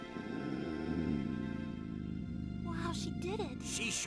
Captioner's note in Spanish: calmado